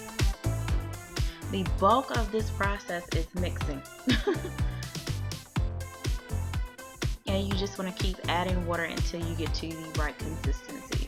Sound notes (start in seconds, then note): 4.1 laughs; 10.9 electronic music